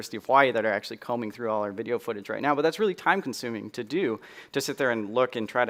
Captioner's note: none